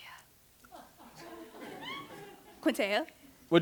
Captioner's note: laughter